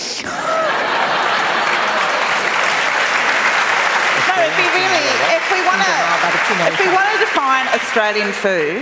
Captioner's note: laughter and Applause